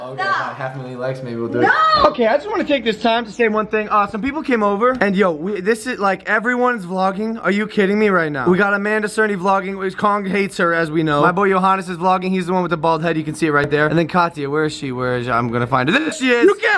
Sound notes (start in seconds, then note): none